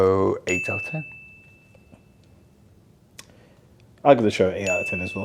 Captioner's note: bell dings